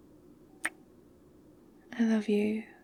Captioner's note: kiss